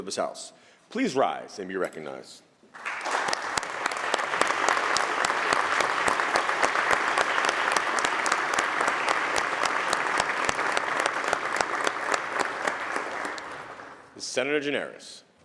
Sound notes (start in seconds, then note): 2.7 applause